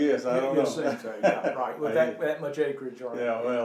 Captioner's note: laughing covers voice